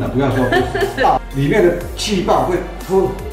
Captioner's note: 呵呵